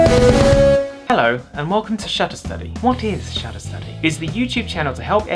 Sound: catchy Intro Music; british Accent

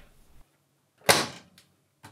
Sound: door bangs shut

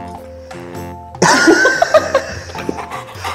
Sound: laughs

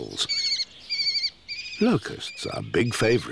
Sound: bird chirping

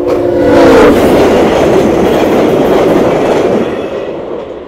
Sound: loud honk, getting extremely loud; extremely loud wheel noise

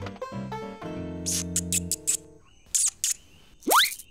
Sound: both squeak

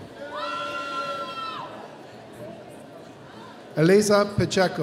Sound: audience cheering

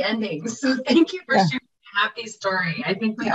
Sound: laughs

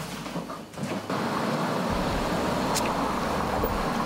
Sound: traffic hums

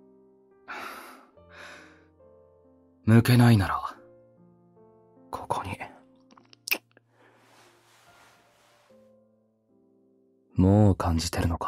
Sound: sigh

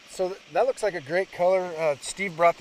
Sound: boat engine idling

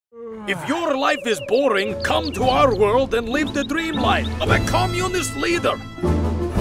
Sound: yawn

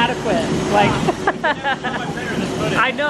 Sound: laughs

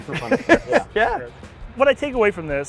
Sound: laughing

